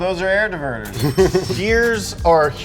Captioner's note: chuckles